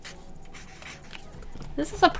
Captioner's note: swishy-swishy